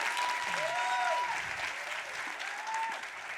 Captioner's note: applause; cheers